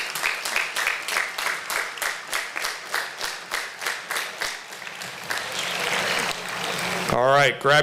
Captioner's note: applause